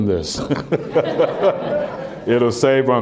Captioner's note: laughter